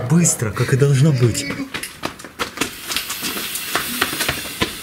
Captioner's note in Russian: шаги; шипение